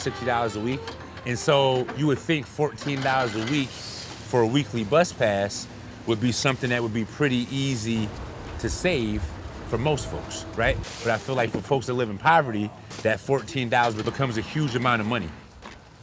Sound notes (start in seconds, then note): none